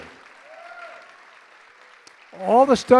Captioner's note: applause